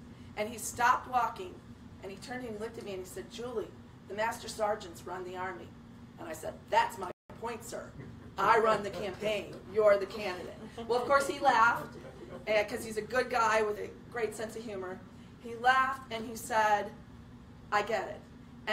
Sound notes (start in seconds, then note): 8.0 laughter